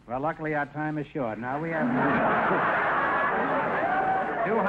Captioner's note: audience laughter